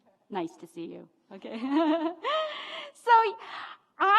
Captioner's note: laughs